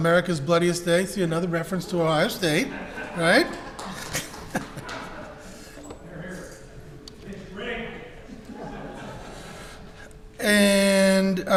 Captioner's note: crowd laughter